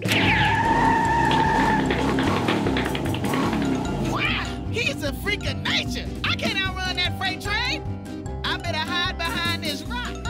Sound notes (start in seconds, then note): 0.0 squealing; 0.5 scrambling footsteps